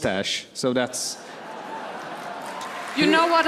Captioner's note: laughter, applause